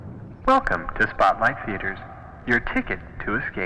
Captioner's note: man On PA